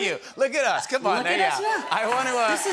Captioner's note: cheers and applause